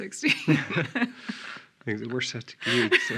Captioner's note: laughing